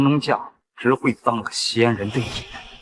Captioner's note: surprised